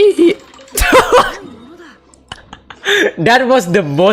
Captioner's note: laughs